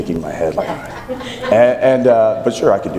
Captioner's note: laughing